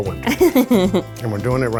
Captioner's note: laughing